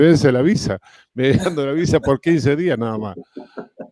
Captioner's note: Risas